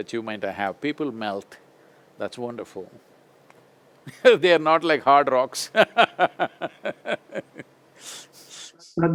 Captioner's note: laughs